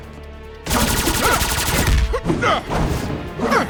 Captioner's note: blasting; wincing